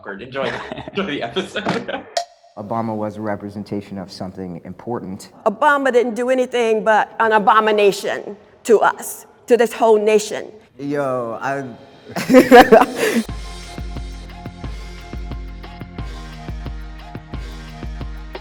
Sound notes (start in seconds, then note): 12.1 laughs; 13.8 upbeat music